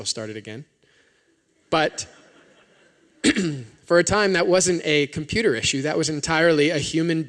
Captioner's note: laughter